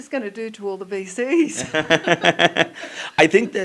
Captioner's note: laugher